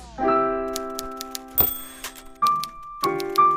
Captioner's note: typewriter dings; relaxing piano music